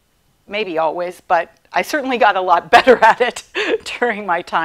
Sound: chuckling

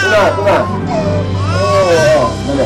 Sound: wails

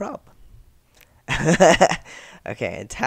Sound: laughter

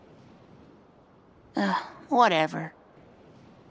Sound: sigh

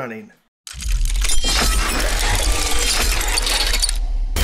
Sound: sound of Gears

